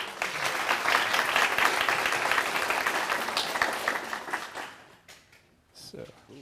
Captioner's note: applause